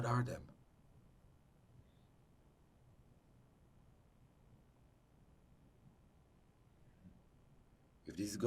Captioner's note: pauses 6 seconds